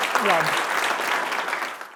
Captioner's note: applause